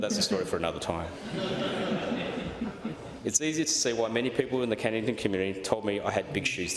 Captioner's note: laughter